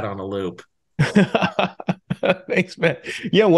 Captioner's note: laughing